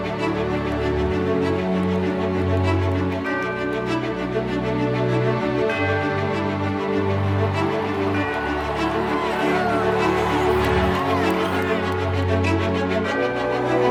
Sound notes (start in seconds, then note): 6.2 crowd cheering